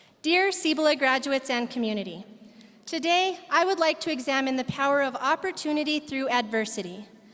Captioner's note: none